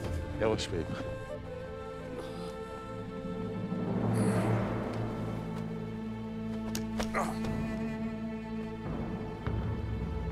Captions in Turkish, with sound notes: Yavaş beyim. (İnilti sesi) Ah!